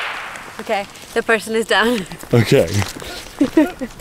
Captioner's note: laughing